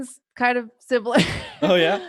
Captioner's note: laughs